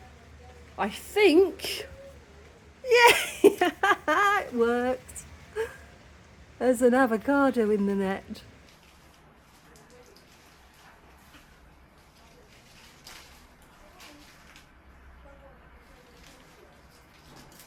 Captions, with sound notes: I think... Yay! [laughing] It worked. There's an avocado in the net.